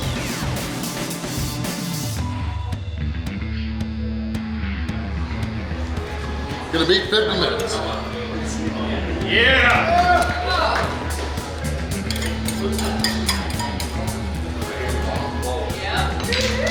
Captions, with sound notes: Gonna beat 50 minutes. (cheering) (rattling)